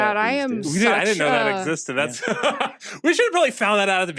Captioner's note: laughs